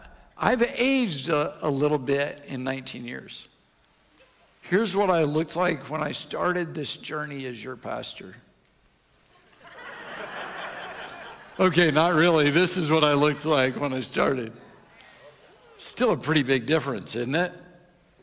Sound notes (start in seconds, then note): 0.2 audience chuckles; 9.4 audience laughs